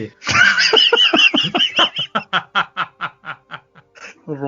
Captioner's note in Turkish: kahkaha